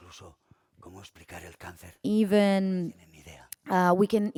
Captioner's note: speaking spanish